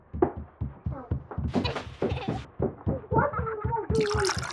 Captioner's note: children laughing